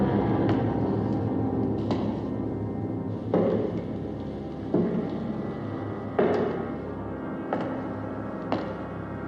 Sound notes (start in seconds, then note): 3.1 footsteps continue